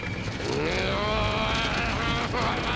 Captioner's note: growling